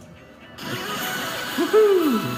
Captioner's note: bursting